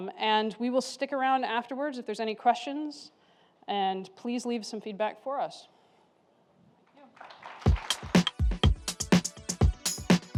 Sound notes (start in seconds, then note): 7.0 applause